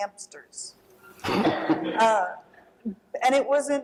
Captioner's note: laughter